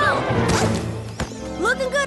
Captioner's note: thud